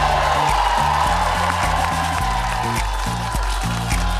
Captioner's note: audience cheering; upbeat music